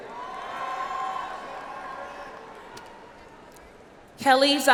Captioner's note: audience applauds